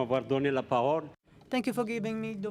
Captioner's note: speaking foreign language